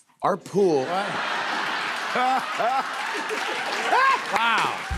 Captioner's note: laughter